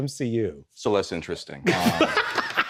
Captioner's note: laughs